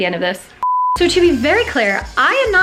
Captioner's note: TV beeps